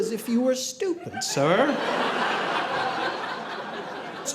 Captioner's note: audience laughing